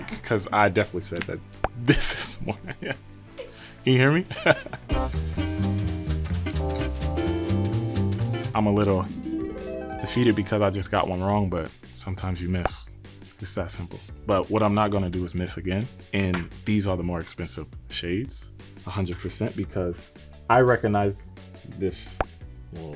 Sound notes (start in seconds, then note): 4.6 laughs; 4.9 upbeat jazz music; 8.7 bright harp music